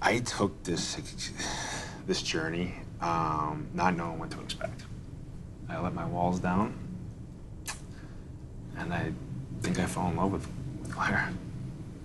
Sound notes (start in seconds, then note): 7.6 clicks tongue